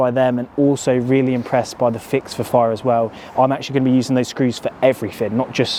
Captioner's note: none